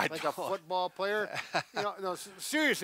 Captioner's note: laughing